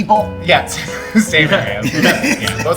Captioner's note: laughing